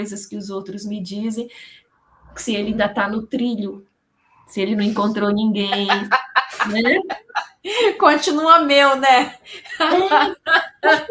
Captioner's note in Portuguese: risadas